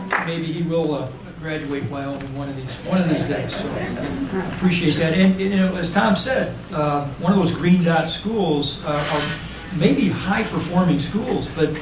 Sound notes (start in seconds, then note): 2.9 laughter